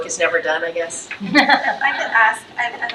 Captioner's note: trustees laughs